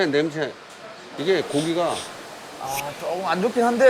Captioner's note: sniff